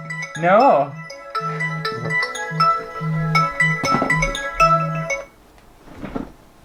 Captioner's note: alarm Sounding